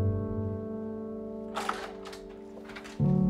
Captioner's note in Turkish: Kapı açıldı